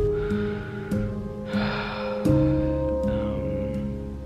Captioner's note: sighs